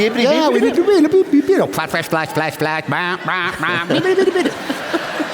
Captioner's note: laughter; warning sounds; laughter